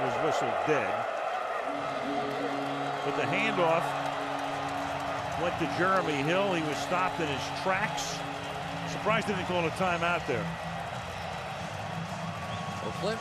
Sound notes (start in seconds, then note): 1.6 horn blowing